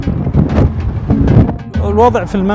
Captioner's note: wind blowing